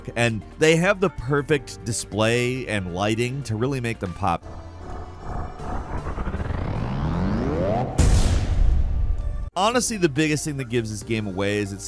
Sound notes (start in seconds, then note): 4.4 machine powering up; 8.2 explosion booms